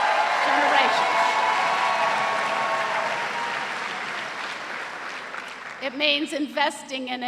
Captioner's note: cheers and applause